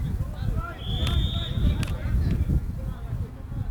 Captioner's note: whistle